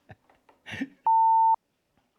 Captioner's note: beep